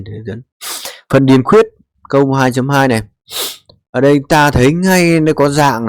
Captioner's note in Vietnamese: khịt mũi